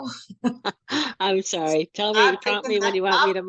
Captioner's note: laughs